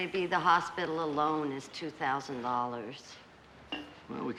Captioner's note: none